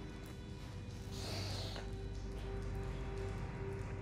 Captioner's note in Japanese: 息を吸い込む音